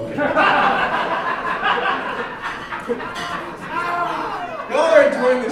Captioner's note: audience laughing